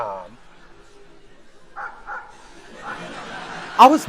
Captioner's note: humiliating laughter